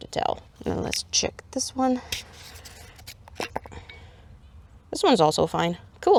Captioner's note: jar opens